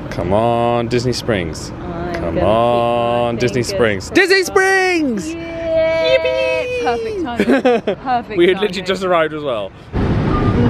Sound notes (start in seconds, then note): 5.9 chuckling